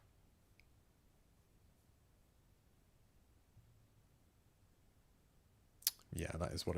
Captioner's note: silence